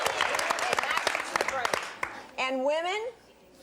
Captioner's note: applause